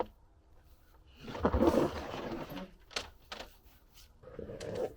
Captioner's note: none